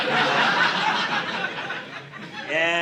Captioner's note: audience laughing